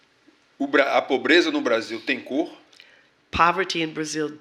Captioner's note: speaking portuguese